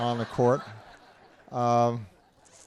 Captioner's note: laughter